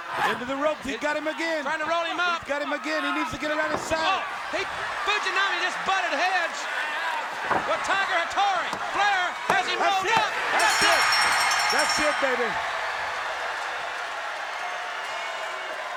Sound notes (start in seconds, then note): 10.4 bell ringing; 12.6 audience cheering